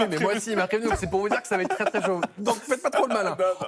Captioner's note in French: rires